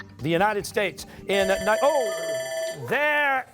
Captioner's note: buzzer